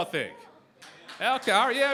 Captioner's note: applause